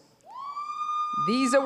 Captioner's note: audience cheering